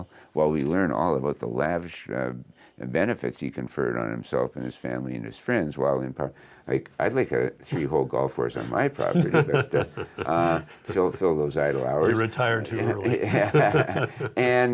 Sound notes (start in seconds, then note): 8.5 laughs; 12.8 both laughing